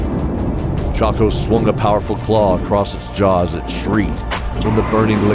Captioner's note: shrieking dragons